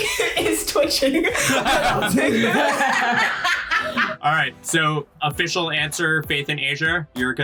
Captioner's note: all laugh